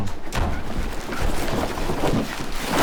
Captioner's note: door Closes